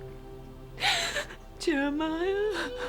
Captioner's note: sobbing